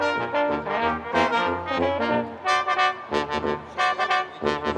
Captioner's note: none